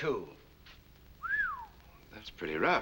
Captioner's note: whistles